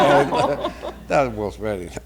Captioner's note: laughter